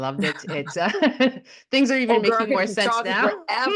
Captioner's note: starts laughing